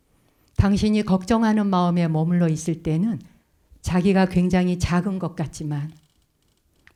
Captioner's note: speaking in Korean